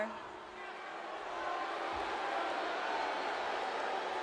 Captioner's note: audience booing